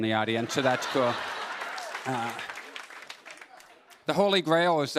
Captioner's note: laughter